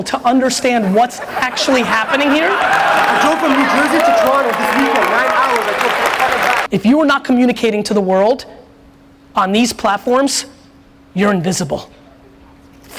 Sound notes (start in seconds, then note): 0.3 audience laughs; 2.9 audience applauds